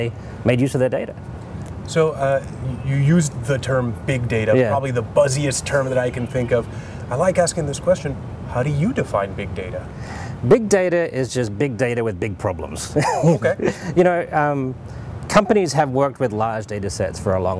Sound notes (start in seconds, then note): 12.8 laughs